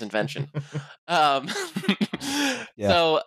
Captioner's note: laughter